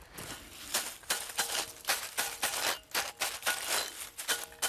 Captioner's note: metallic noise, rustling